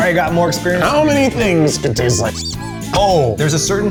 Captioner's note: squeak